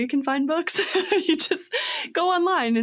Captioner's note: laughs